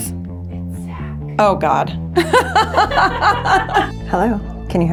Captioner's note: laughs